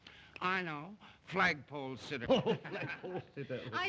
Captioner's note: laughter